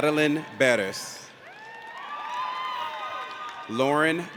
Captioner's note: audience cheers